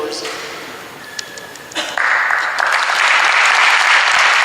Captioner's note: audience applauds